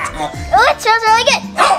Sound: laughing

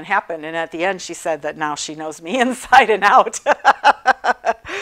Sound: laughing

